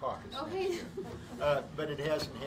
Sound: laughter

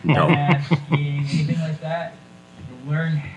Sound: folks chuckling

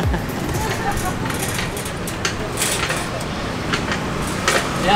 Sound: sounds of street

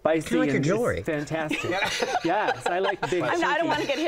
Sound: laughter

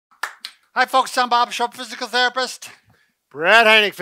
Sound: clap

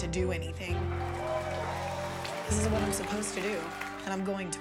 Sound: group cheering

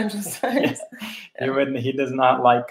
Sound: laughing

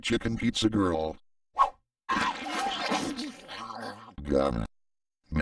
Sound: whoosh, chicken noises, splat

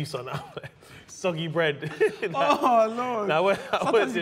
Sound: both laughing

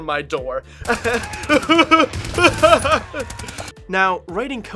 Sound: gunshots

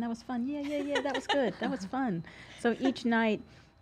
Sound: giggles

